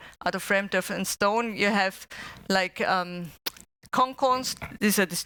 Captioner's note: non-english speech